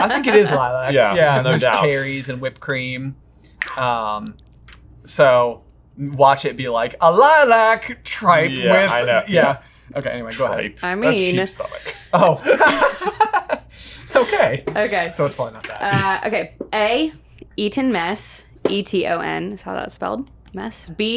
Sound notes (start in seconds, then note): 0.0 chuckling; 4.4 snapping fingers; 12.1 laughs